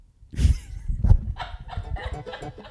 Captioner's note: laughing; upbeat music